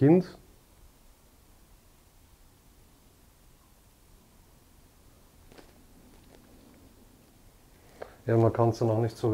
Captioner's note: wind in the background